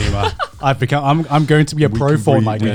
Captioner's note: Joey laughing